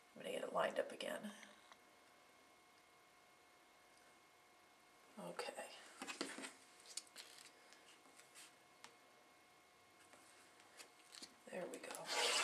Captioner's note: sound of cutting